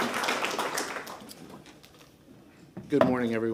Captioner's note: applause